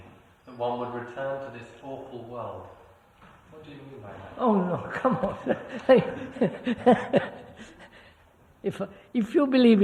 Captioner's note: laughs